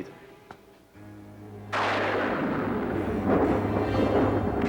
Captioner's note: thunderclap